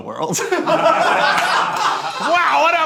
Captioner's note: group laughing